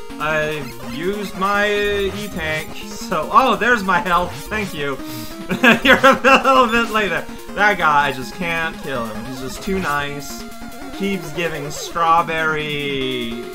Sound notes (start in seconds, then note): 3.9 laughs